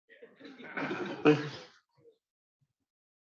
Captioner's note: laughter